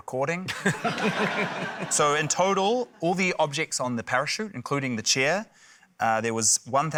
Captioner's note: laughter